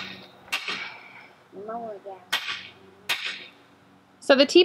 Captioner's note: hammer thuds